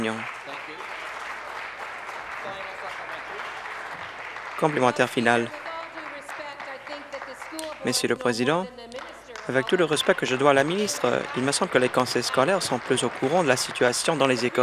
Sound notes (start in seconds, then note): 3.4 voice fading; 5.8 applause